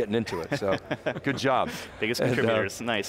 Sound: laughs

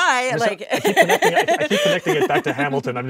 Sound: laughing

